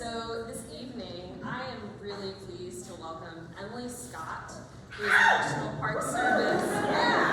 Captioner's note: crowd cheers